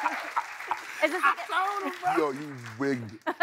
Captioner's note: laughing